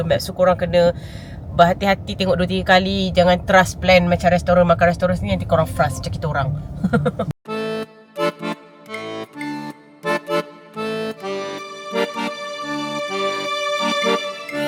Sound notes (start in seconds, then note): 6.8 laugh